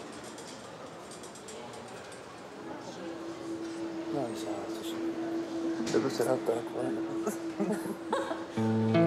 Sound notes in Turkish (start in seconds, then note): 5.8 Uzaktan konuşmalar duyuluyor